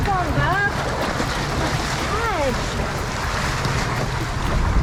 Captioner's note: water splashing